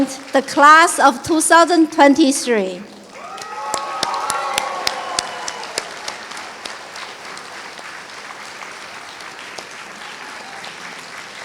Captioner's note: applause & Cheers